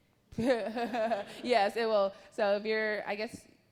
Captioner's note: laughs